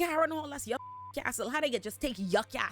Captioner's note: beep